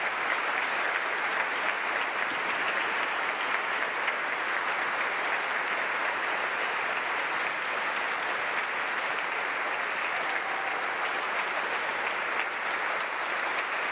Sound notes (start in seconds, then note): 7.6 applause